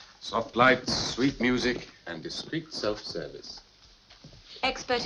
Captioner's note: none